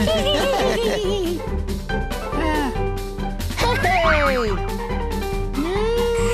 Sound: laughing

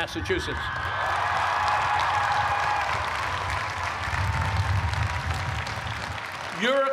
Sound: cheers and applause

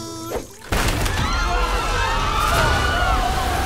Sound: screaming

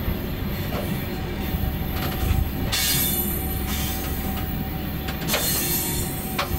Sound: engine whirs; metal screeching; suspenseful music

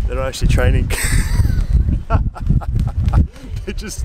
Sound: laughing

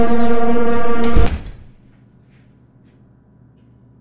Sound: door shuts

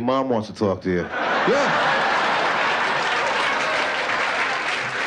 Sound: laughter

